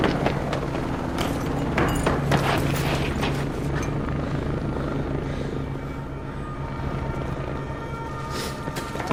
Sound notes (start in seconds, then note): 4.8 sirens blaring